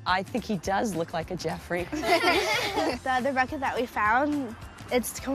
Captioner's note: laugh